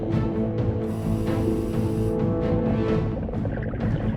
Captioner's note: air regulator hisses; bubbling